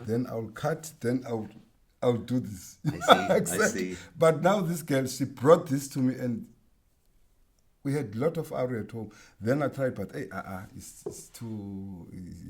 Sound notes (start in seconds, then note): 2.9 laughs